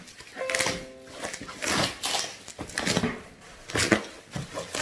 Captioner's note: bubble wrap ripping